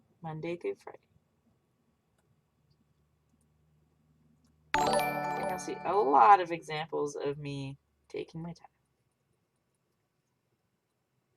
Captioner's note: Streamlabs Follow alert sound